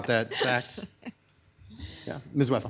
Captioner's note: laughing